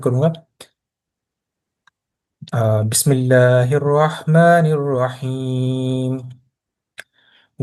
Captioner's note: recitation, Bismillah